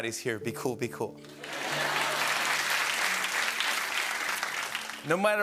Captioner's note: laughter and applause